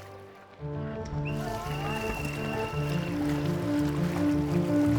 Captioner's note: water lapping